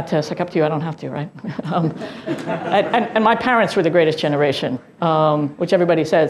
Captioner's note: laugh